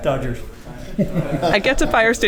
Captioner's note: laughter